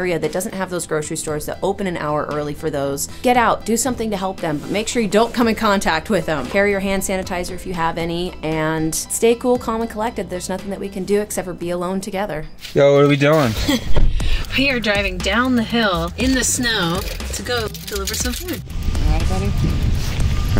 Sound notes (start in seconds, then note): 13.4 laughs; 17.6 keys jangling